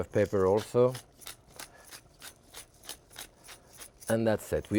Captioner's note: pepper mill crunching